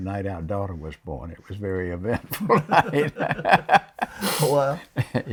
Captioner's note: laughs